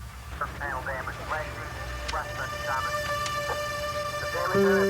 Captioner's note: police scanner